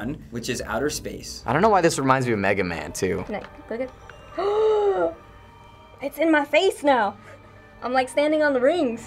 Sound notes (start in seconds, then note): 4.2 gasps